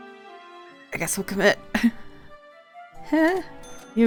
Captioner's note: nervous laugh